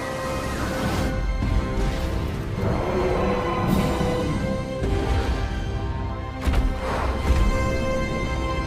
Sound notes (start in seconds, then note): 0.1 screaming; 2.5 T-Rex: Roar; 5.0 T-Rex walking